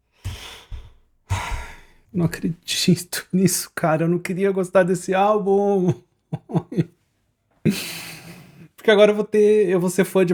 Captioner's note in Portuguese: suspirando; risadas